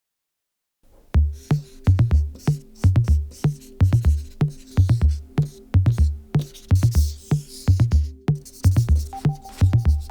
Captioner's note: scribble sounds